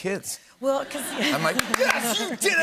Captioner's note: laughter